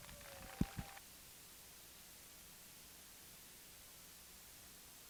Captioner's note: applause